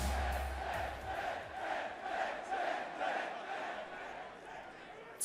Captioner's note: fans chanting